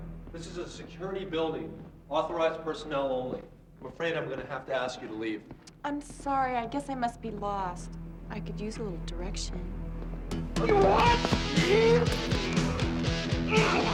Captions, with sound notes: I'm afraid I'm gonna have to ask you to leave. - I'm sorry, I guess I must be lost. I could use a little direction. (yelling) (rock music)